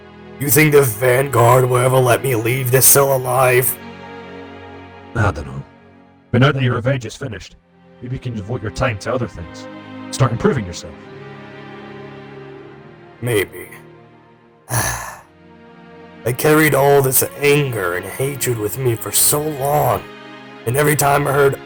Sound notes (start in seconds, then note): 14.7 sighs